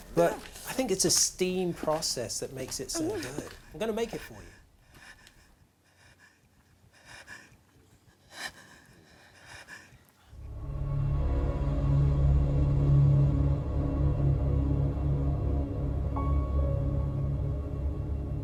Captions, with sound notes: But I think it's a steam process that makes it so good. I'm going to make it for you. [whimpering] [suspenseful music]